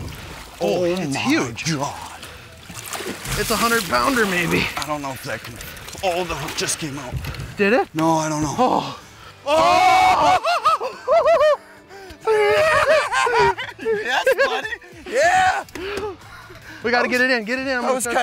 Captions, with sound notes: O MY GOD....it's huge It's a hundred pounder maybe o the hook just came out Did it? No. I don't know? (screaming and cheering) Yes buddy! (cheering) We got to get it in...get it in